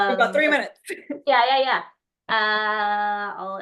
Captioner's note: laughs